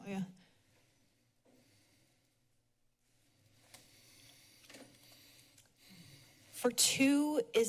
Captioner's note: silence